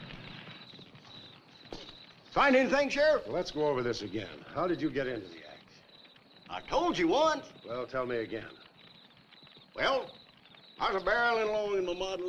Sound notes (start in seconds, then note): none